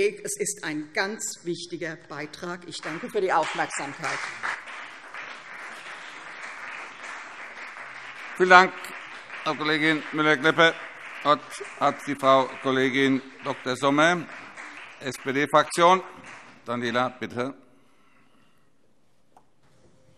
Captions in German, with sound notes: Es ist ein ganz wichtiger Beitrag. - Ich danke für die Aufmerksamkeit. [Beifall CDU und BÜNDNIS 90/DIE GRÜNEN] Vielen Dank, Frau Kollegin Müller-Klepper. - Das Wort hat Frau Kollegin Dr. Sommer. Daniela, bitte.